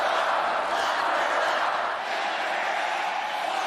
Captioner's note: crowd chanting